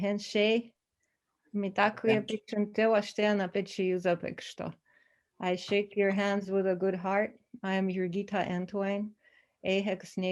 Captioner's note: native language 00:10:40